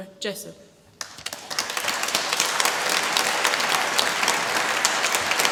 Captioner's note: applause